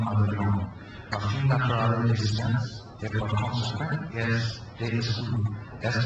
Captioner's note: speaks in foreign language